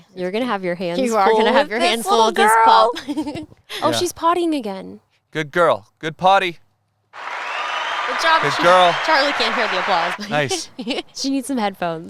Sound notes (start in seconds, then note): 7.1 applause audio; 10.1 laughs